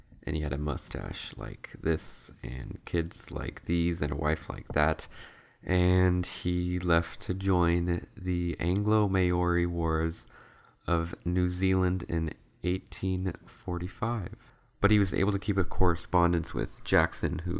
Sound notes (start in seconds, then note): 11.1 spoken like he's speaking for the first time in years